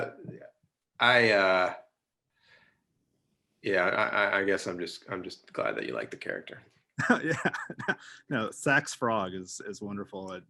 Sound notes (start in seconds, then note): 6.9 laughing